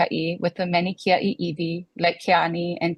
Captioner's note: speaks foreign language